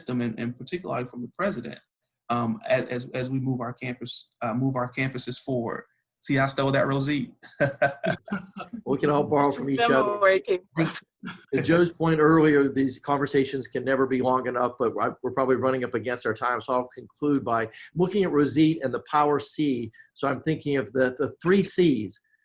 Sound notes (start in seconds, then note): 7.4 laughs